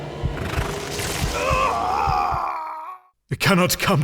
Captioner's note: scream of pain